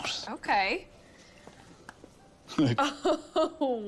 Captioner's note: Andie laughs